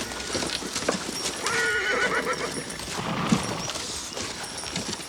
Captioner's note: horse neighs